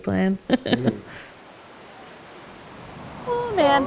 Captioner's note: laughs